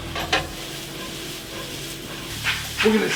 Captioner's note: pan sizzles